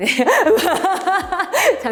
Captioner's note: laughs